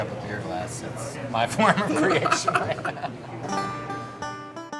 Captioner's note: laughs